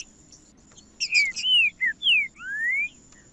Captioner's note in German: trinca ferro cantando